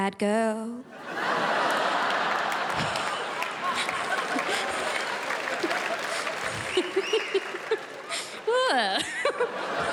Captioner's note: crowd laughs